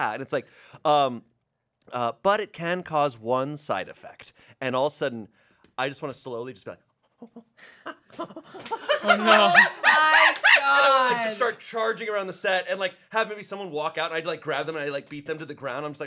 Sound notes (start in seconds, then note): 7.0 mimics monkey screech